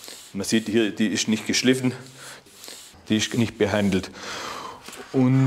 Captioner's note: none